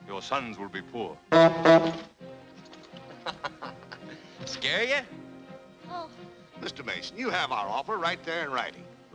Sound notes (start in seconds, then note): 1.3 horn honks; 3.0 laughs